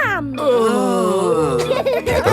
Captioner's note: groaning; laughing